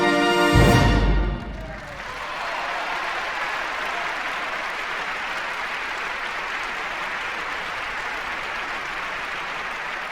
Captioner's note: applause